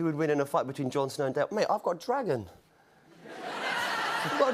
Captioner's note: laughter